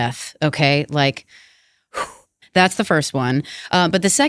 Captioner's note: breathes